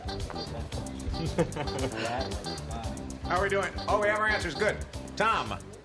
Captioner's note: laughs